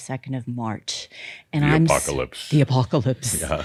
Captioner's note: deep voice